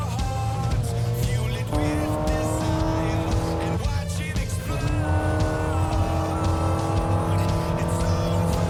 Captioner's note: car revving